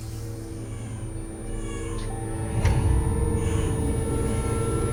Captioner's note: ominous music; baby crying